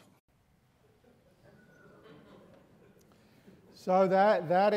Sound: students murmuring nervously

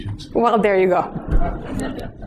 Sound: laughter

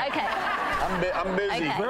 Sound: audience laughter

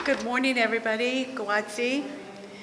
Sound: non-english speech

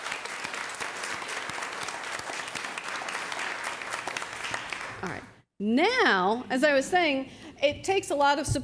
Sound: applause

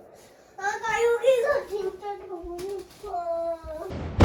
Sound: fireworks ㅠㅠ

